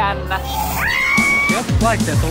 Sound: squealing

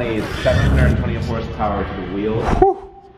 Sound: engine revving

